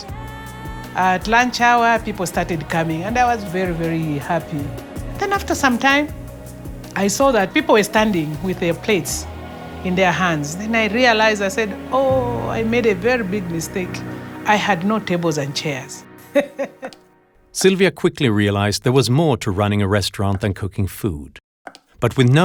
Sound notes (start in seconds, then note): 16.2 laughs